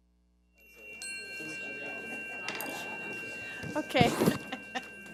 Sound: bell dinging

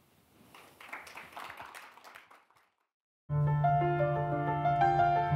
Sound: audience clapping; gentle music

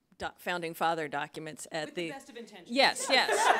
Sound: laughs

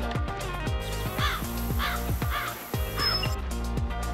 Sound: crow caws

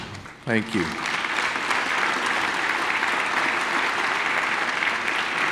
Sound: audience clapping

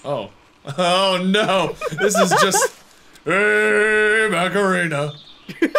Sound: laughs; laughs

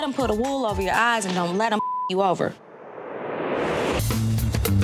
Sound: beep; funk music

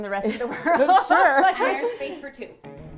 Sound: laughing

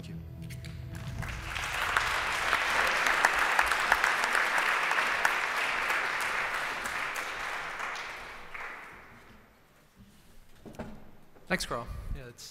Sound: applause

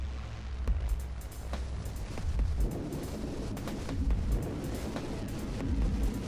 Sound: rainfall, distant thunder

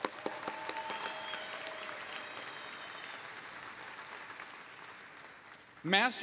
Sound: applause

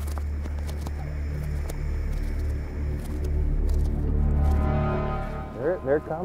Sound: flapping

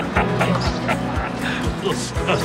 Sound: laughter

